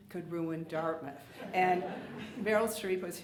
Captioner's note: audience laughs